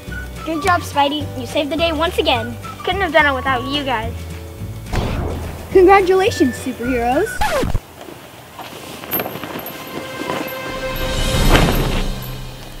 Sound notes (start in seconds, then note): 7.2 disc scratch; 9.8 dramatic tune